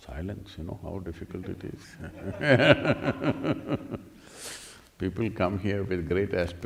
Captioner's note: laughs